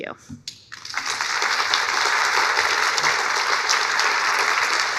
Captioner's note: audience applauding